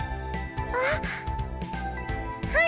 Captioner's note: gasp